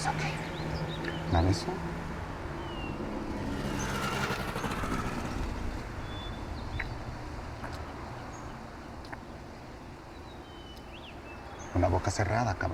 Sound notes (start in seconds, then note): 6.7 street noise